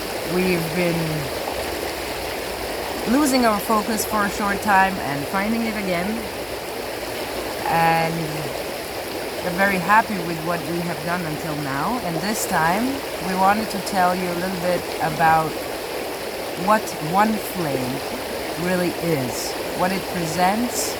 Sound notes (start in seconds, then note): none